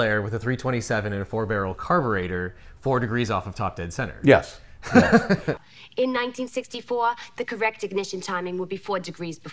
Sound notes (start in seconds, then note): 4.8 laughs